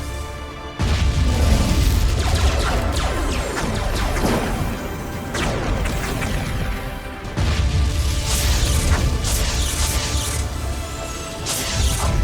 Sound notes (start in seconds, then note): 0.8 explosions booming; 0.8 cannons blasting